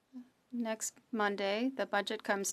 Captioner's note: speaking French